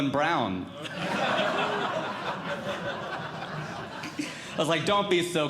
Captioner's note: audience Laughing